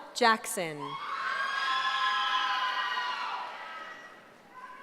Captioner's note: cheering